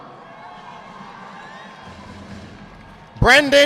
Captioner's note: audience clapping